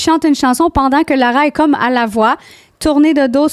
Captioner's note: in french